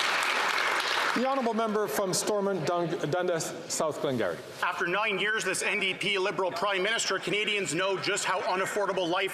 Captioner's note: some Applause